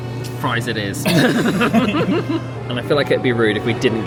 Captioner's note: men laugh